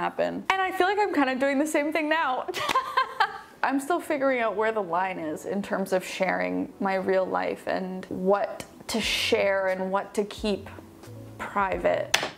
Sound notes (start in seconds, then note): 2.5 laughs